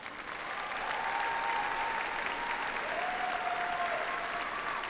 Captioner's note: audience applauds